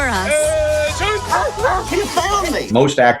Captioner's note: dog barks